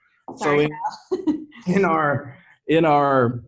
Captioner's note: laughs